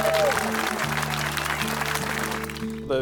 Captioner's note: applause